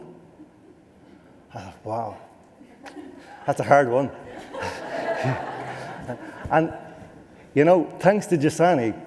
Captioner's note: laughter